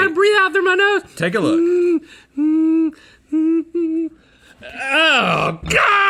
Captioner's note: whining